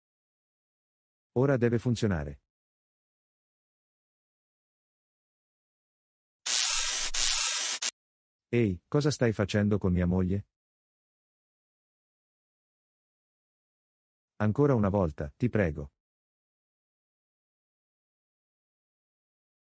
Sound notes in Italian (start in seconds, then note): 6.4 FX - Electricity